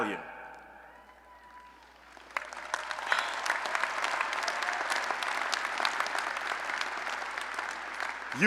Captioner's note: applause